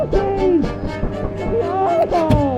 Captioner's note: beating sound